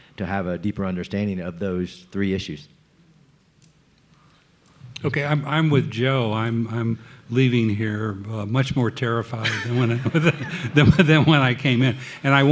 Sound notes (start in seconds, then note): 9.4 laughing; 11.3 audience laughing